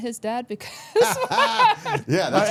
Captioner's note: all laughing